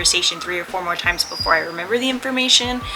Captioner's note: Picasso Whistles